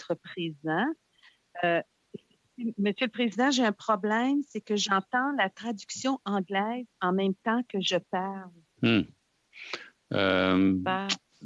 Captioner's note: speaking French